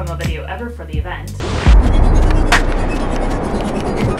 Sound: wind blowing

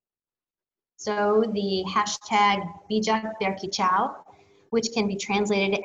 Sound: speaking in foreign language

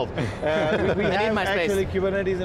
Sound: laughing

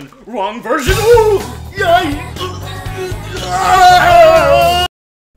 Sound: screaming in Pain

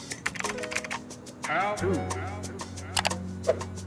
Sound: keyboard typing

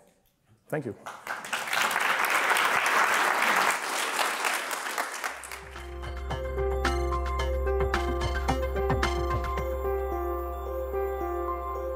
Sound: applause

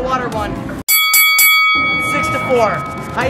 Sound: bell ringing

